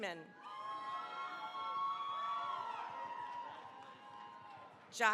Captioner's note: cheering, applause